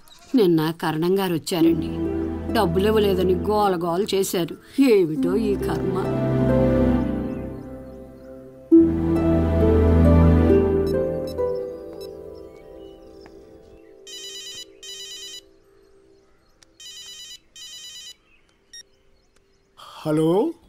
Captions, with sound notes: Yesterday, Mr. Karnam had come and he created a big scene for not giving money. I really don't understand our fate. [Phone rings] Hello.